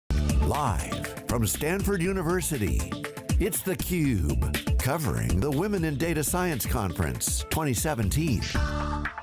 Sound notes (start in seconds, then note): 0.6 voiceover